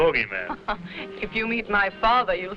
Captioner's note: chuckling